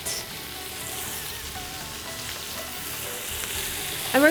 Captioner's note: food sizzling